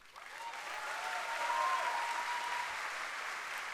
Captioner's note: applause